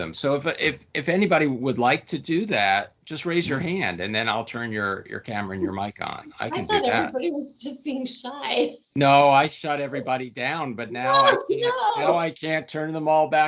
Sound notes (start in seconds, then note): 6.8 chuckling